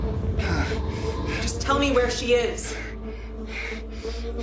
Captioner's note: Roy's pained breathing